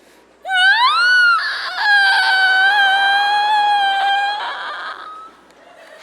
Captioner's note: Draco high-pitch squeals